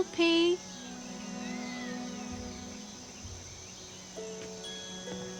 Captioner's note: cats mewing